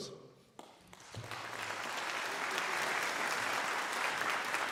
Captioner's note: crowd applauding